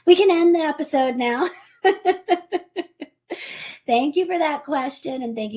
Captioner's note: laughs